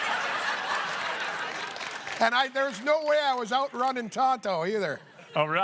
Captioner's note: laughter